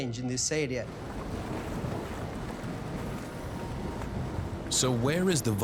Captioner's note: bubbling